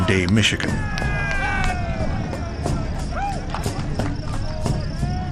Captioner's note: players shout and cheer